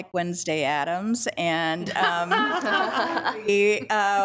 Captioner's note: attendees laughing